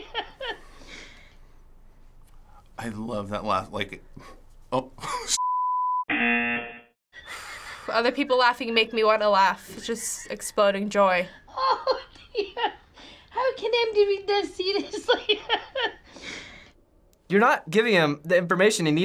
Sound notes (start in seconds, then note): 6.0 buzzer; 15.1 laughing